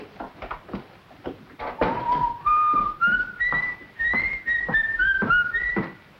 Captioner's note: whistling